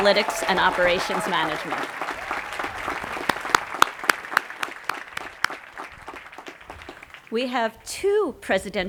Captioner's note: applause